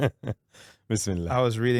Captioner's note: laughing